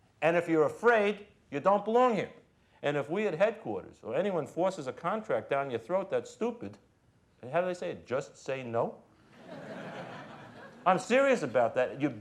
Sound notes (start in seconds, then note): 9.3 crowd laughing